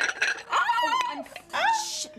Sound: screams

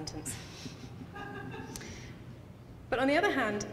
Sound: audience laughing

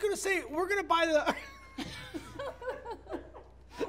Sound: laughs

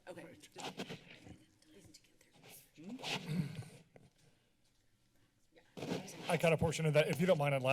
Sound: background conversations

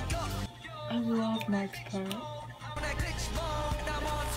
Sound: snapping

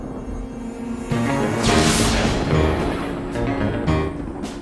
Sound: lightning and thunder

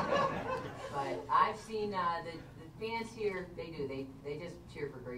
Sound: laughter

